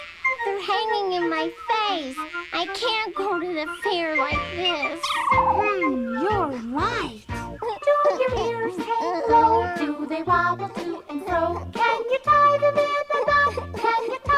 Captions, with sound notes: Their hanging in my face. I can't go to the fair like this. You're right. ( cries )